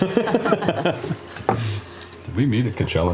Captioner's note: laughter